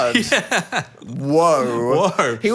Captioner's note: laughs